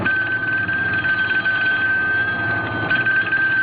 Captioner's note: phone ringing